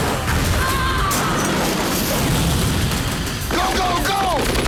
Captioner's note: explosion rumbles